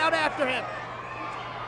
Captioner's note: applause